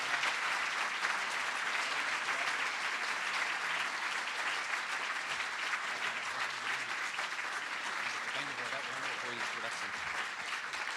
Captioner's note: cheering & Applause